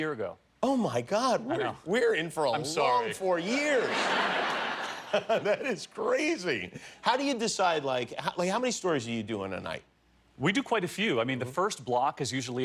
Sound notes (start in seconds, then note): 6.2 laughter